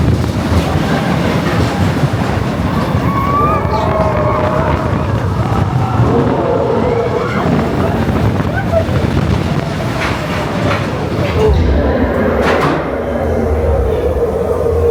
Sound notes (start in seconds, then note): 1.2 train rumbling; 5.7 Yeti growling; 11.4 Yeti growling